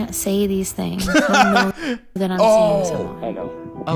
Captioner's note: laughs